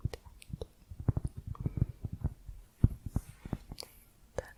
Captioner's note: tapping on cork